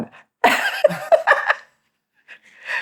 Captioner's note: laughter